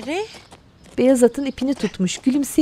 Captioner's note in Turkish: At nalı sesi